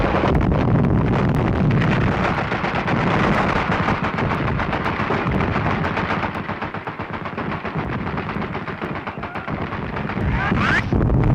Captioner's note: explosions